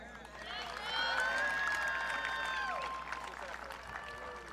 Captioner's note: audience cheering